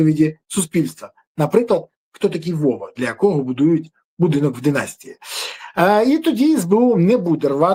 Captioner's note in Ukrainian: сопіння